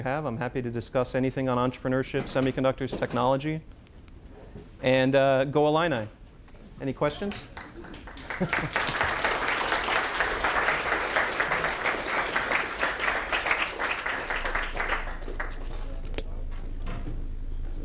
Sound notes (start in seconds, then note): 12.2 applause